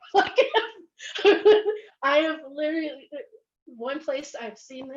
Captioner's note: laughs